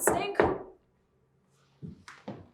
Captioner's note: door knocks